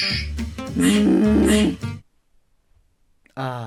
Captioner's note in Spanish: Silencio completo